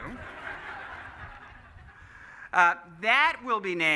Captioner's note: laughing